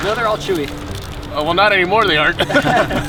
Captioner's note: all laughing